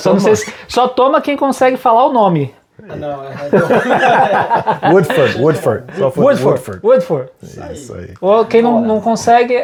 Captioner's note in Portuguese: risadas